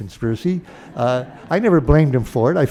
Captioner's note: laughter